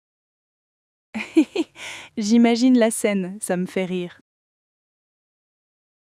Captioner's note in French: rire